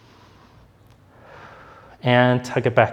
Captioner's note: breathing deeply